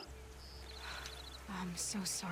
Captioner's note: sigh